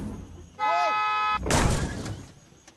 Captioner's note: horn blares